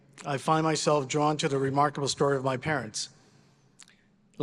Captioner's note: none